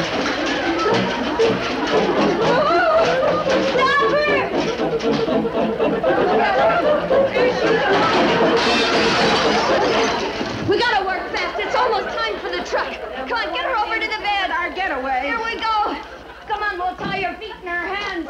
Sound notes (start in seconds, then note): 1.4 Babe moans; 3.8 choir harmonizes; 7.7 plate clinks